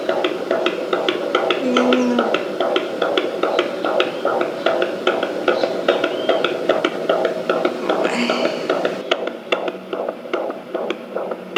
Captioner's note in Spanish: Latidos de corazón